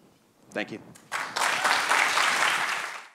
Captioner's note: applause